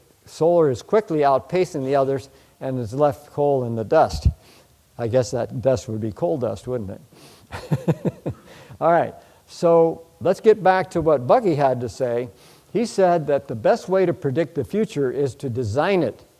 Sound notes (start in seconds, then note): 7.5 chuckles